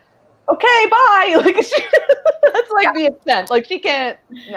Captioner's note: laughs